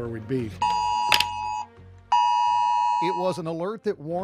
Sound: alarm Sound

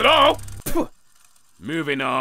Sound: spits

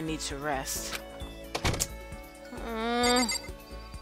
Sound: sucks teeth

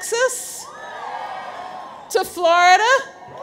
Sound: audience cheers

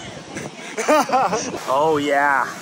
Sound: laughing

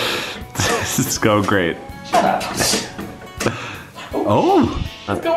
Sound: chuckling

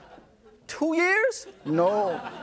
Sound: audience laughs

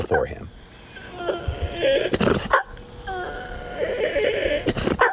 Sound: Winston cries

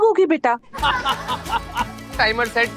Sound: laughing

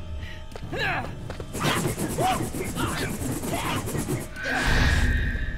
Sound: grunting

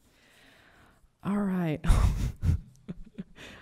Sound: chuckles

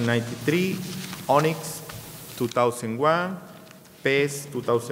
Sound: speaking in a foreign language

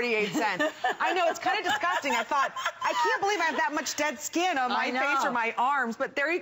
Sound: laughter

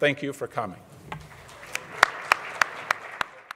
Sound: audience applauding

